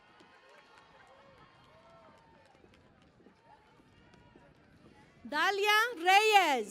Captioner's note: cheering and Applause